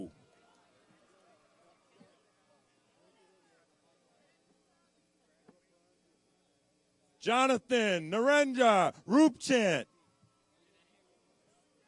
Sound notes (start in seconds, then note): none